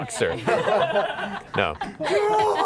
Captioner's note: laughter